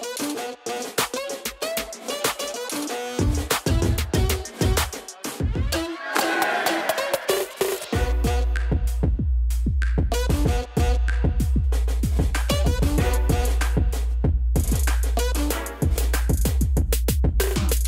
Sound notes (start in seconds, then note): 5.8 crowd cheering; 8.1 upbeat music